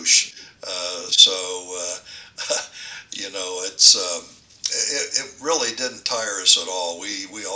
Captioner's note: laughs